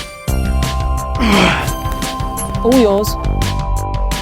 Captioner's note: Brett grunts; upbeat rock music continues